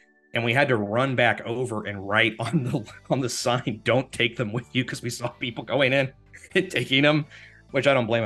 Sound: laughing

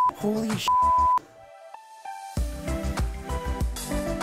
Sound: beep

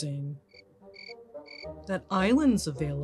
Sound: crickets chirping

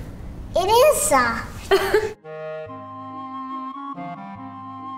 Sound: laughing

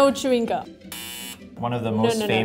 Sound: buzzer buzzes

